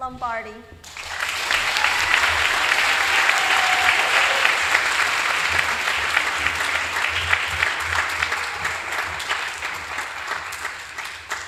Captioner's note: applause